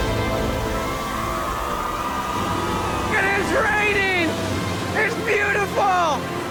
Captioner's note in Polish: Aplauz